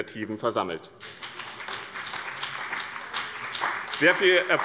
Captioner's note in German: Beifall bei dem BÜNDNIS 90/DIE GRÜNEN und der CDU